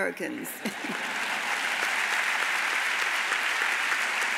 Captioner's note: audience applauds